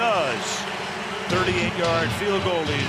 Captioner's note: cheering